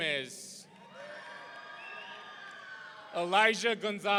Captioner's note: audience cheering